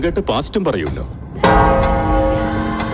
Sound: church bell rings

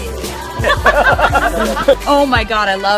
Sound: laughing

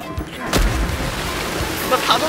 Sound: splash

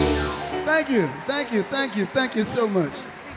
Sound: audience cheer and clap

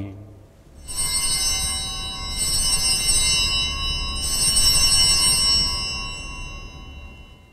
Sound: bells ringing

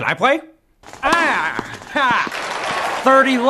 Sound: applause in game

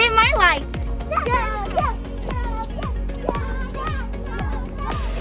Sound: kids Cheering

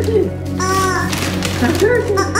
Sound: honk

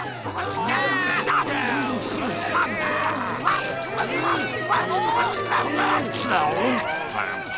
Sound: customers moaning

